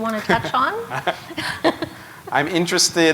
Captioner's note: chuckle